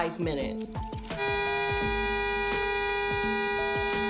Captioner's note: long single car horn